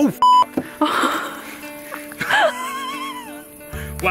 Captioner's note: laughing